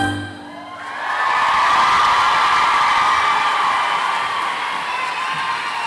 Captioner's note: applause and cheering